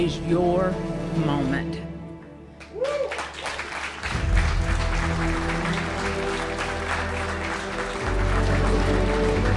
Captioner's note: applause